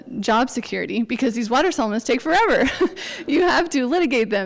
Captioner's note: chuckles